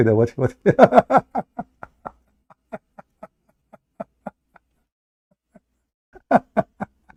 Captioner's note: Ketawa